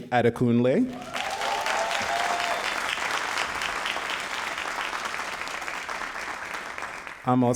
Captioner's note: all applauding and cheering